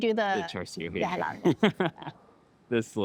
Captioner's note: chuckles